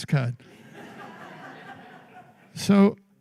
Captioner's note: laughter